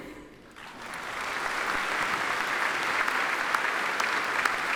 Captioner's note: attendees applaud